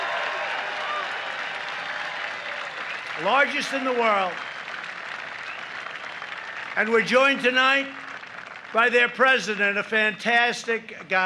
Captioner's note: applause